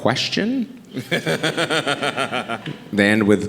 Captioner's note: laughing